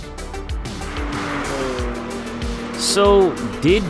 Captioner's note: car whooshing